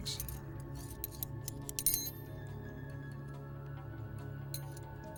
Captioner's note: rings clinking